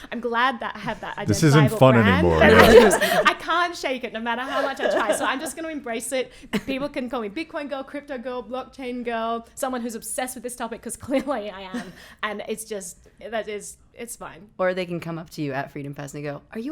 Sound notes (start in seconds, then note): 4.8 laughing